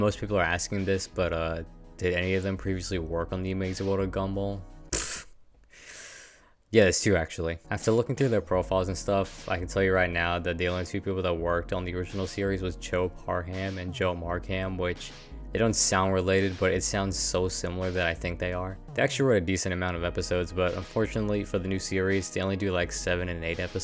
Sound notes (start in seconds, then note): 5.6 inhales